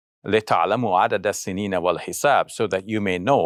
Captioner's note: speaks in foreign language